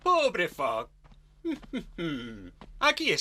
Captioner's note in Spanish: tararea